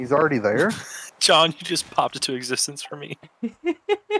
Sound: wheezes; laughs

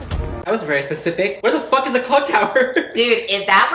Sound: laughs

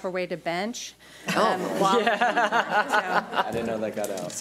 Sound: laughing

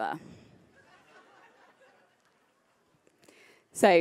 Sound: quiet laughter from people in tent

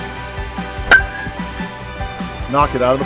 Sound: ball and bat clanks

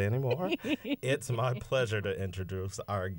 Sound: laughter

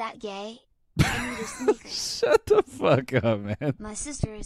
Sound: laughs

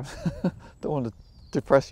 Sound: host chuckling

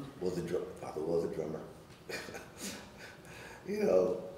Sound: laughing

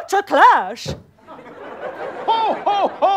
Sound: audience laughter

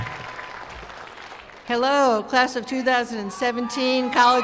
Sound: applause

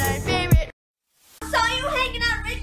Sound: TV Static

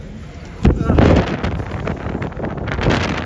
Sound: more loud wind noises, sorry about that

